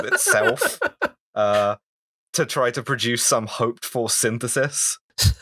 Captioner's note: laughter